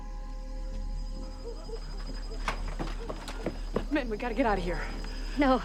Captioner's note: dogs Barking In Distance